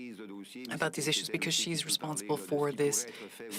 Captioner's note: speaking French